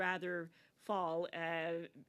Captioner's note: speaking French